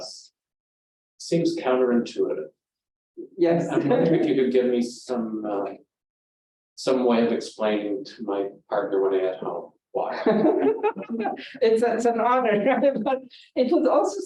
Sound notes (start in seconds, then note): 3.8 audience Chuckling